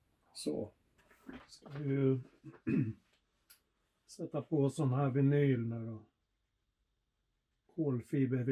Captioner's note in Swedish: harklar sig